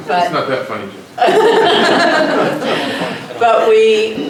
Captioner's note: laughter